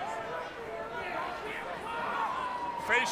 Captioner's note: crowd chatter